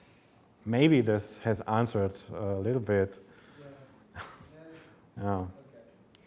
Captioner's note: chuckles